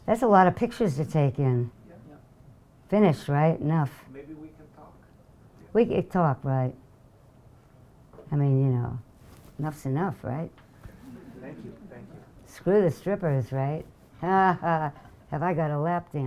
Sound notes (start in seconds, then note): 4.8 voiceover; 11.0 audience laughing; 12.9 voiceover; 15.5 laughing